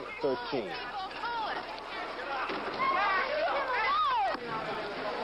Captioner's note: crowd shouting angrily